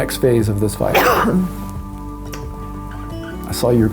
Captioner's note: cough